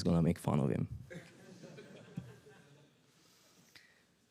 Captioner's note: audience laughs